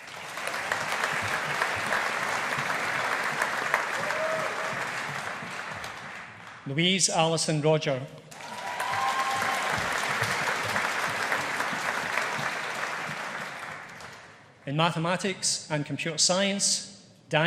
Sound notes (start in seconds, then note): 0.0 audience applauding; 8.3 audience applauding